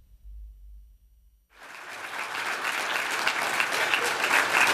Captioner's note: applause